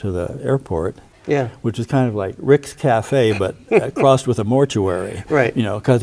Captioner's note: chuckles